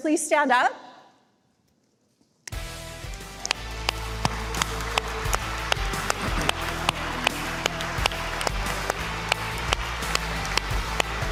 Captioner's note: applause